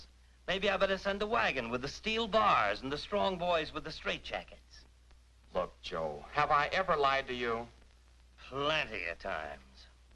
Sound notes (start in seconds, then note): none